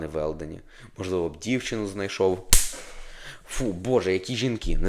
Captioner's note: slap sound